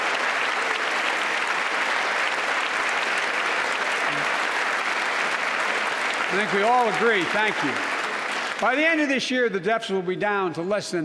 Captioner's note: applause